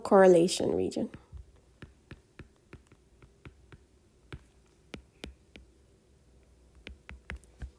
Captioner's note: writing Sounds